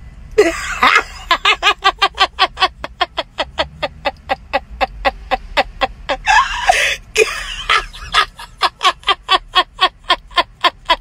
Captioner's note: laughter